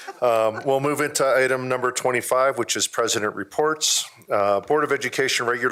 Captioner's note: laughter